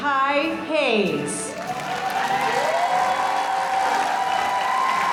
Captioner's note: applause; audience applauding